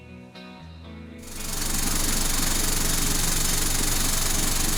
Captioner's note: mechanical whirring